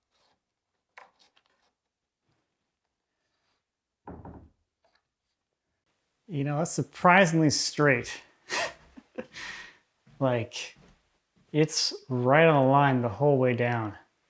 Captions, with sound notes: (wood objects thudding softly) That's surprisingly straight, like it's right on the line the whole way down.